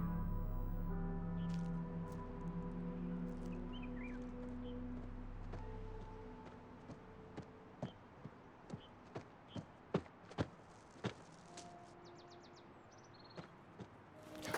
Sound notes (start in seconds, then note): 3.6 birds singing